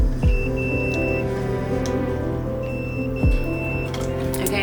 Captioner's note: inverter beeps